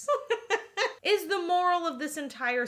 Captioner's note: laughing